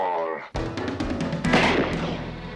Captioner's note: gunshot